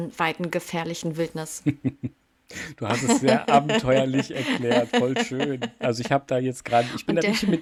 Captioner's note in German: gelächter